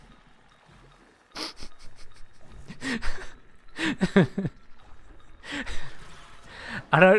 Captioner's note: defeated chuckle